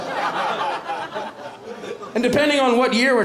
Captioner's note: laughter